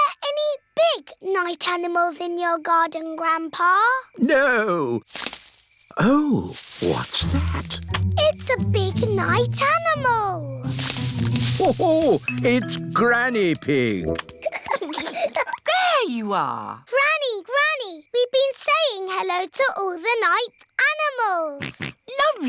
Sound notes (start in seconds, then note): 6.2 rustling; 14.3 peppa and george giggling